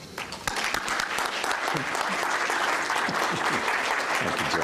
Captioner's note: applause